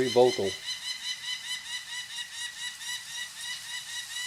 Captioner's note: peregrine calls